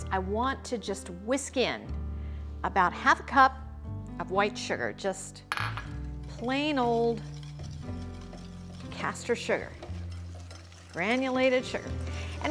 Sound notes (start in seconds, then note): 6.6 whisk whirring